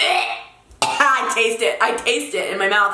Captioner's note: more gagging sounds